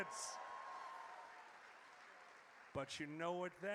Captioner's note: audience cheers